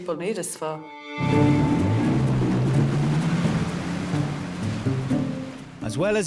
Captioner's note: soft music; engine whirring